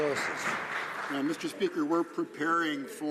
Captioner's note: some Applause